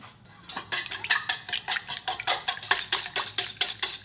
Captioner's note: bowl clanging